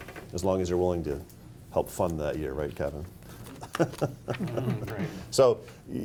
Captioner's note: laughs